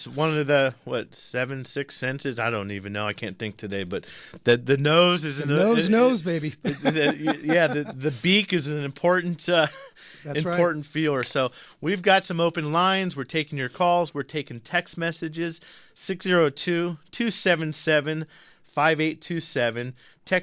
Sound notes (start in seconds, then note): 6.6 laughs